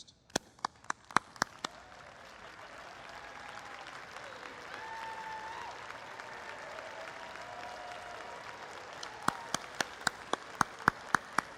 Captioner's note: applause